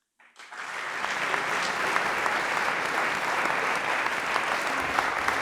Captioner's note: audience applauds